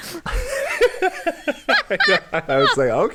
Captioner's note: both laugh